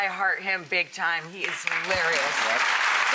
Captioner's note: clapping